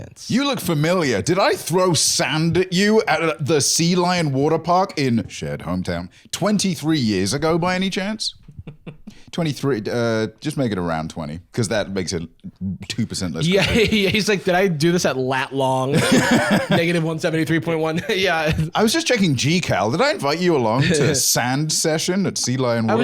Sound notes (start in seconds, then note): 8.3 laughing